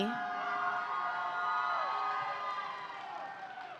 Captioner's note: audience cheering